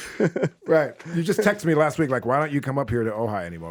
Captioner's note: Justin laughing